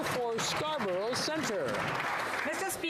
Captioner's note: some Applause